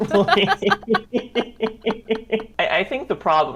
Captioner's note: both laugh